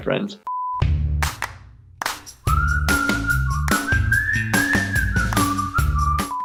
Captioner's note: cheerful music; test tone beeping